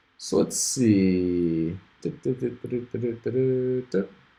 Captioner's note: hums